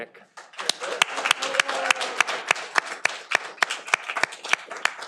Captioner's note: audience applauding